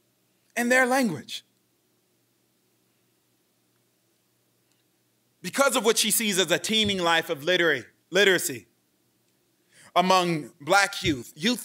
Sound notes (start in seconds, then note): none